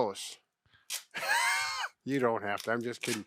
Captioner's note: chuckles